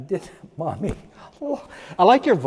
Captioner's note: choking up